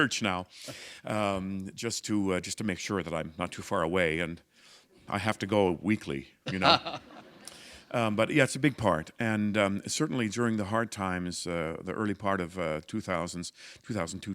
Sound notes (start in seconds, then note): 6.4 laughter